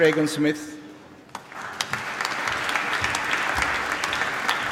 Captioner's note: applause